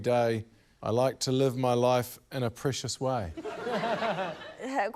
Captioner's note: laughter